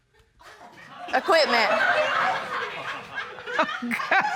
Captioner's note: laughter; laughing